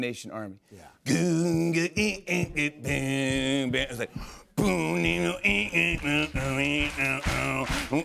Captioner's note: imitates " " beat